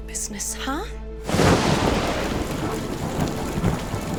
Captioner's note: thundering